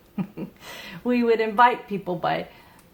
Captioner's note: chuckles